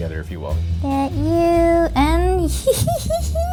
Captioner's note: chuckles